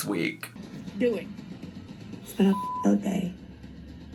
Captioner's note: beep